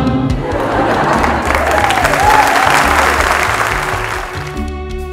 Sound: laughter & applause

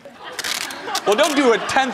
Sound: audience laughs

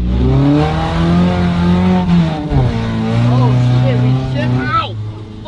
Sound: engine revving

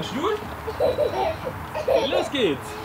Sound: she chuckles

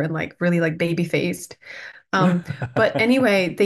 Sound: laughs

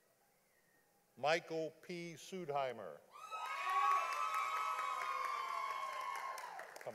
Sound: audience applauding

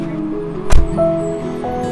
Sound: door closing

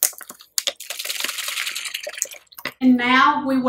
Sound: shaking bottle

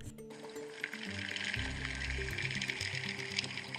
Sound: rattling gently

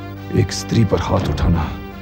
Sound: none

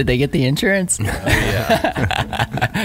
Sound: laughing

